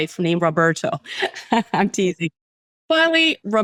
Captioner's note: laughs